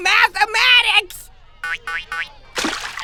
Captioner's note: water splashes